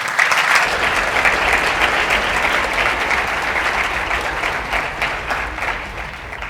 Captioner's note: applause